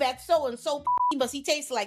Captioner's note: beep